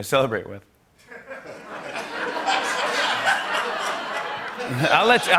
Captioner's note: laughter